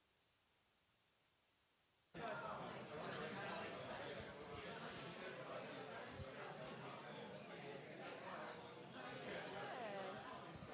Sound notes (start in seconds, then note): 2.1 audience chatter